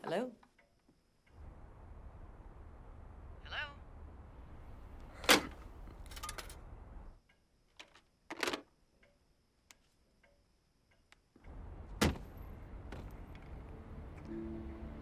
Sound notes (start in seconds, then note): 5.2 phone bangs